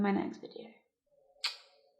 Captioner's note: kiss